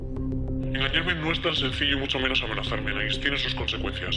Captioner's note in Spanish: voz distorsionada